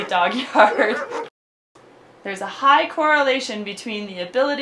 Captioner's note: dogs barking